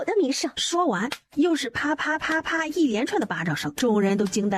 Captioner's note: smack, smack, smack!